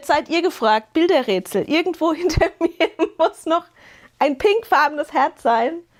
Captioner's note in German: gelächter